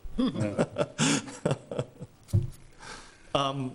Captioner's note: chuckles